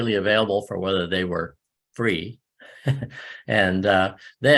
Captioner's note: laughs